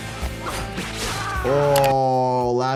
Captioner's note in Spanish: Wolverine gritando